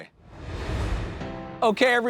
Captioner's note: air whooshes